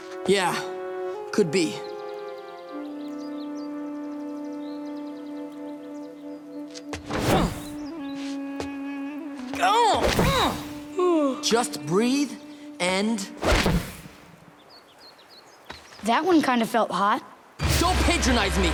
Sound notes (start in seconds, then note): 9.9 grunting; 10.2 yawning